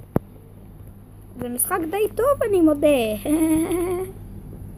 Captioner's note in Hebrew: צחוק